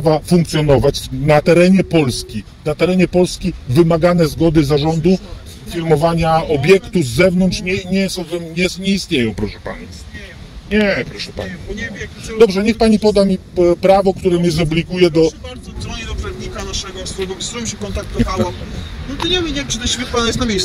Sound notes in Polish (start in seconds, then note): 18.1 śmiech